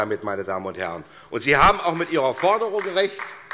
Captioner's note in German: Beifall bei Abgeordneten